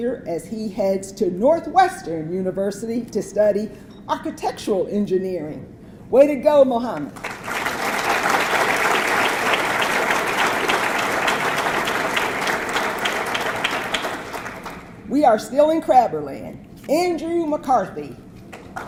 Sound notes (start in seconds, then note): 7.0 audience clapping; 18.6 audience clapping